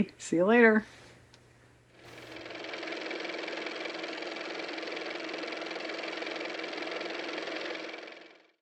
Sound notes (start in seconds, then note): 4.7 car motor